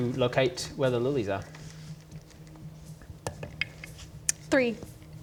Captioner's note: none